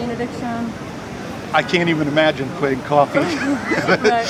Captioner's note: laughing